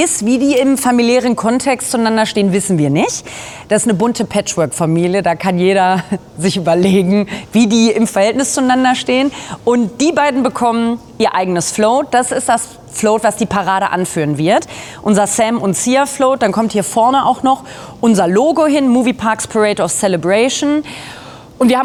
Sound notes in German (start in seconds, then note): none